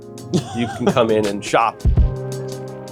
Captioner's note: laughing; soft upbeat music